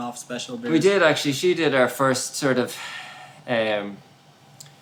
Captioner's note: sighs